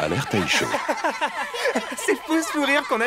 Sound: laughter

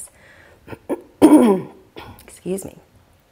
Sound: clears throat

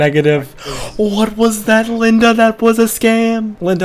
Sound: gasp

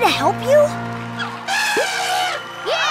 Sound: elephant horn

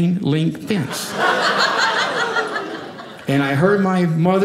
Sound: audience laughing

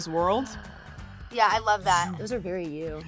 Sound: mimics spaceship

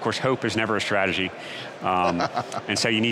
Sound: laughs

